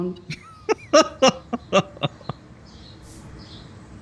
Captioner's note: laughs